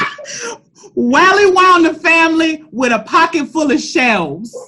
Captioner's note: laughter. echos